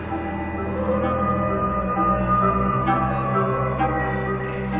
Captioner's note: wolf howling